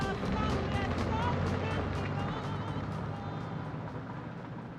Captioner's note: engine revving